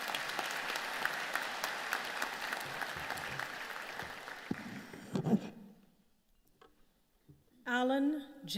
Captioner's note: applause